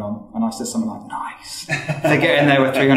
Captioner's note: whispering